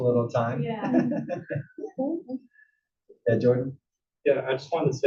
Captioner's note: laugh